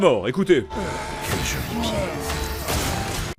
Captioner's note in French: Bruit de souffrance